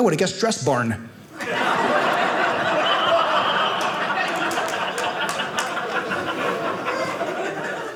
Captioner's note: audience laughing